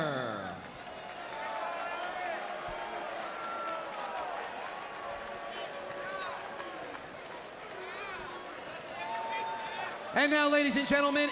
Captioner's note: crowd cheering